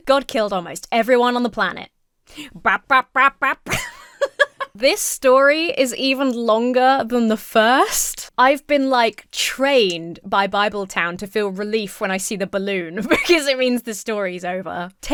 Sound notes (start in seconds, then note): 2.3 Emma laughs; 2.5 Emma imitates upbeat music